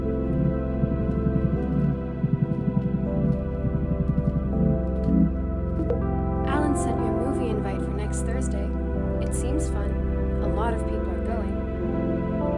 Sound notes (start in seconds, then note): 0.2 phone rings and vibrates; 4.9 ringing and vibration stops; 4.9 soft chime